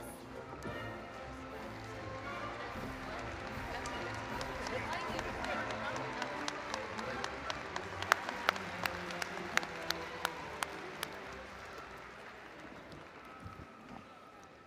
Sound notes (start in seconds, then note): 2.3 applause & Cheering